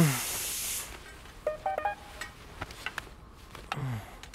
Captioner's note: Phone chimes